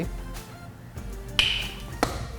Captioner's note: crack